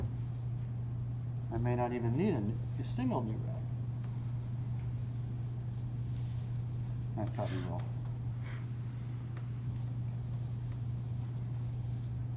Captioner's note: spray, spray